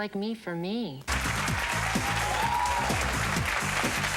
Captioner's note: audience clapping; upbeat dance music